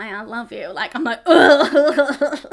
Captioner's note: woman gags